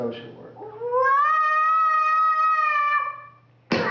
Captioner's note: sound of child playing with toys